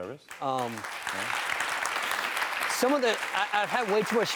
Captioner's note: cheering